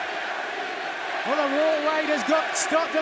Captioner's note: fans chanting